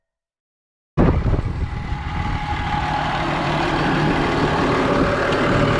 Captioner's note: tractor engine churning